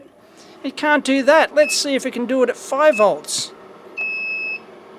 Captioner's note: beeps